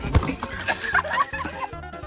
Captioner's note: both Mei and Connor start laughing at the predicament